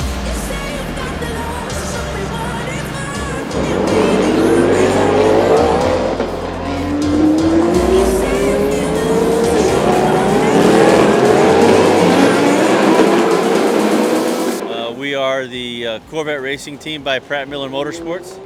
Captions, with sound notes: (upbeat music) (engine revving) We are the Corvette Racing Team by Pratt & Miller Motorsports.